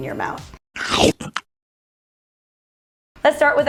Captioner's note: munching